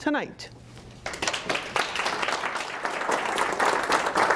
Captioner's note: applause